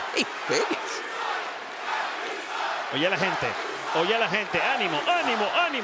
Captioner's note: applause